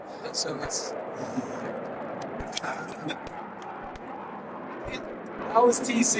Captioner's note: airplane flying overhead